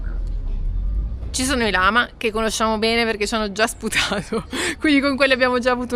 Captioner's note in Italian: risate